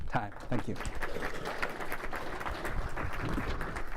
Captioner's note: applause